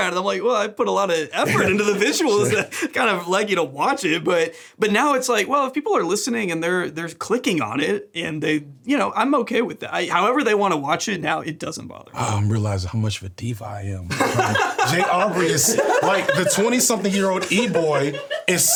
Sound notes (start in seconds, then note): 14.1 laughing